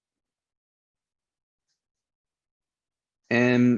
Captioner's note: silence